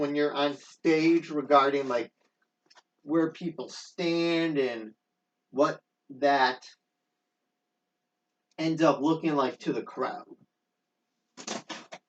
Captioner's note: tearing